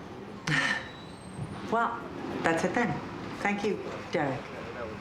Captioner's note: sighs